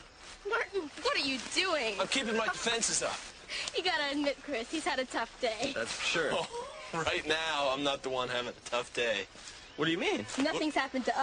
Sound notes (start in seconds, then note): 6.1 chuckles